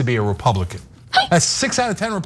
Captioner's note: laugh